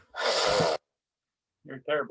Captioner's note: boy sputtering